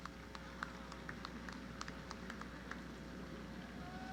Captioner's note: applause